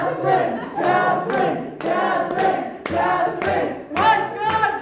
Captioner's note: chanting; whole room chanting